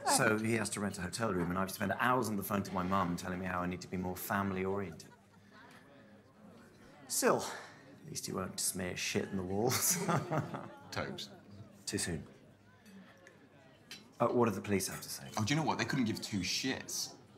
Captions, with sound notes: So he has to rent a hotel room, and I have to spend hours on the phone to my mum, telling me I need to be more family orientated. Still, at least he won't smear shit on the walls. [laughter] - Tobes... - Too soon? What did the police have to say? Oh, they couldn't give two shits.